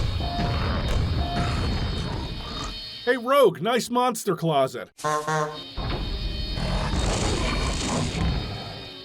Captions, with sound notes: Hey, Rogue, nice monster closet! *honk honk!*